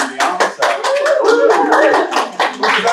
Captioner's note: applause